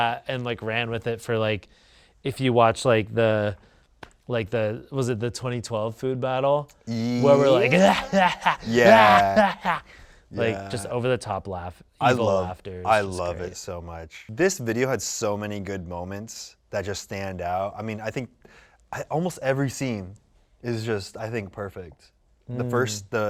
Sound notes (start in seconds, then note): 8.8 cackles